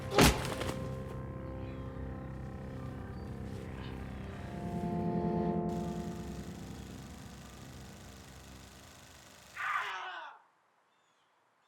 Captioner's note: gun firing; yelling